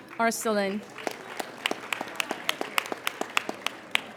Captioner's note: applauding